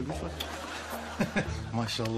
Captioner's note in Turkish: Gülme sesi